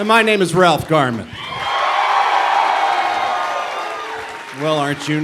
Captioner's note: cheering